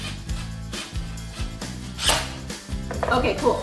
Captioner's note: drill whirling